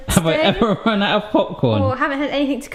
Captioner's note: laughs